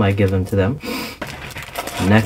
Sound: sniff

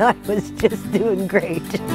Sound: chuckling

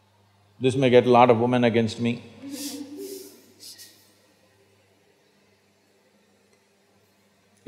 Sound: laughter

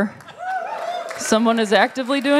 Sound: cheers

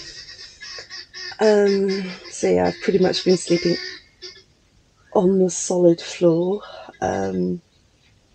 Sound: very loud bird

